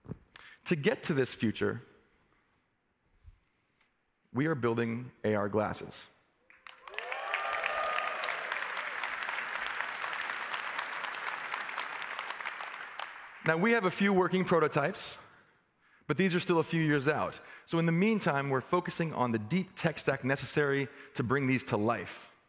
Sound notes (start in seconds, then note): 10.4 applause